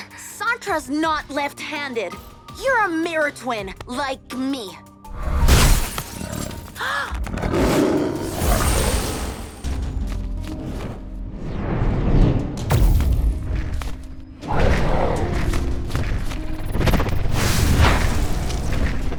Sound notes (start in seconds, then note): 5.2 lion roars; 5.4 glass breaks; 7.3 Yufon roars; 7.6 magical buzzing; 14.3 Jessa growls